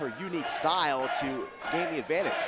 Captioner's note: crowd cheering